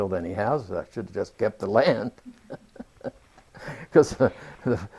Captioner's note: laughs